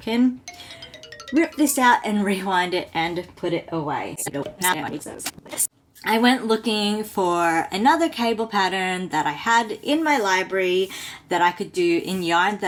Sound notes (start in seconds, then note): 4.2 fast forwarded talk